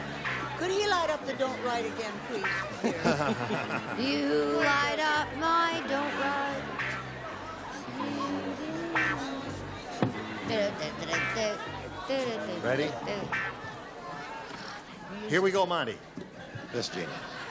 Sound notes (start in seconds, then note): 4.9 singing; 8.1 humming